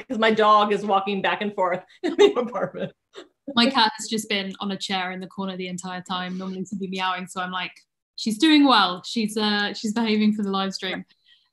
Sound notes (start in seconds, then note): 3.0 laughing